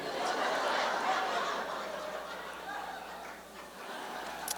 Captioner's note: laughter